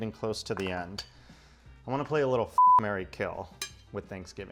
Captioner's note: beep